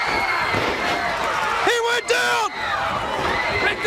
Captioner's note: crowd cheering